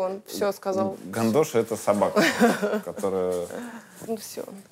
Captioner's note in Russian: Мария смеется